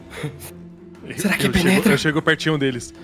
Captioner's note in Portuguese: sussurrando